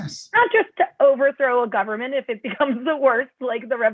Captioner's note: laughter